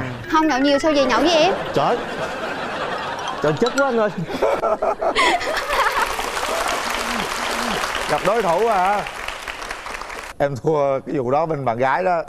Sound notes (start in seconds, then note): 5.6 applause